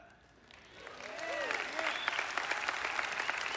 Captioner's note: applause